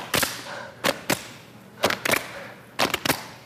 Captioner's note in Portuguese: Descontraído